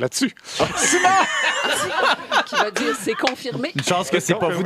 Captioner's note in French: rires